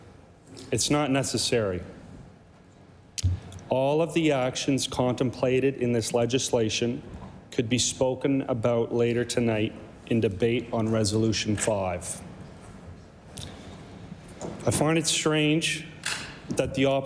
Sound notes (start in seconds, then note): none